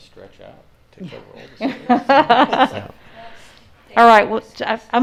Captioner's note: laughing